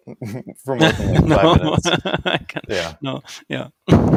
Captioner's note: laughs